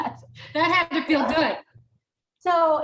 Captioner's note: laughs